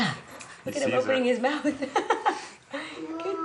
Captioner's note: laughs